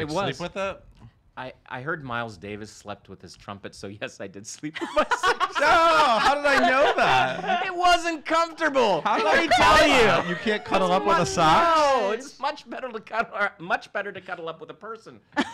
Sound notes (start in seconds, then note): 4.8 mirthful laughter